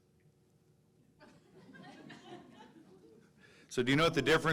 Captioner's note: audience laughing